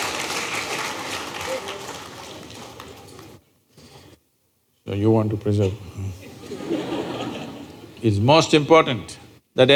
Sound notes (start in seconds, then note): 0.0 laughter/Applause; 6.2 laughter